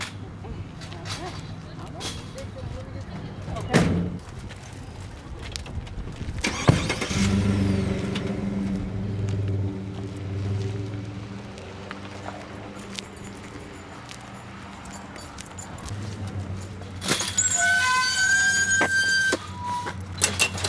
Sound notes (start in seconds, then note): 0.2 indistinct conversation; 3.6 door closing; 7.9 van starts; 16.6 gate creaks